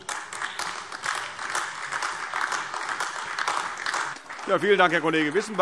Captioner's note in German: Beifall AfD